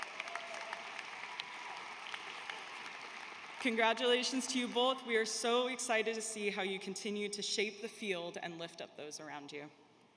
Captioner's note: cheers and applause